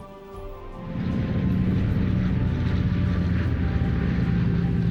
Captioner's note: plane engine rumbling